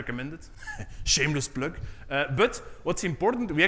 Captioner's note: chuckles